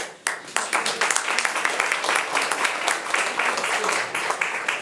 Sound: audience applauding

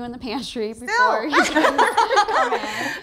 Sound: all laughing

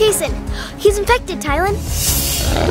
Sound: gasp

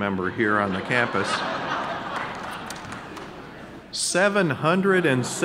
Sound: audience laughing

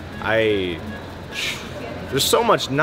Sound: sighs

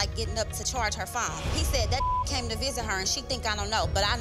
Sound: beep

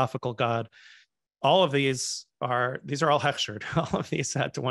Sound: hebrew

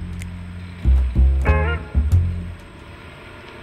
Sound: car rumbles

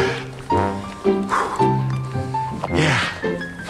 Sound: huffing and puffing

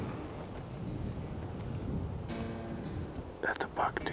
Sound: wind blowing

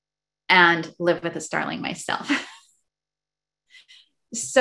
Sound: laughs

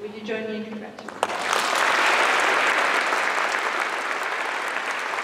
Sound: applause

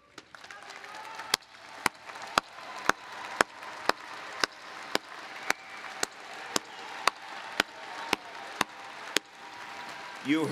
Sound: applause

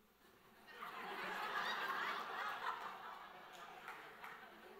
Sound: audience laughs

